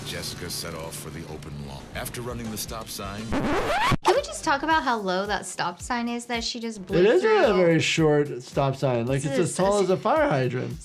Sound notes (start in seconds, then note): 3.2 videotape whirs